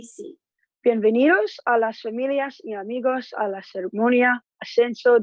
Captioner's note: speaking in Spanish